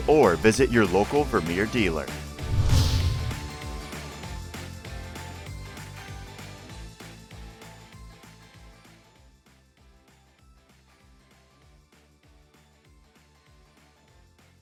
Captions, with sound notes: or visit your local Vermeer dealer. (whoosh) (upbeat music)